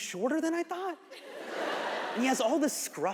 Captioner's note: audience laughs